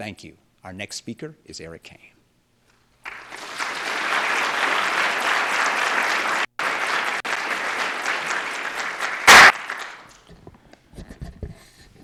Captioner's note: applause